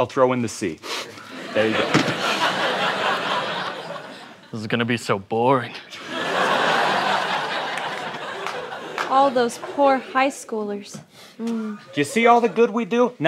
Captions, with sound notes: I'll throw in the sea. [laughter] -This is gonna be so boring. [laughter] -All those poor high schoolers. -You see all the good we do?